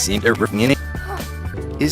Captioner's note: gasp